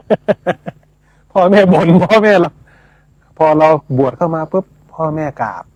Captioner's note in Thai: เสียงหัวเราะ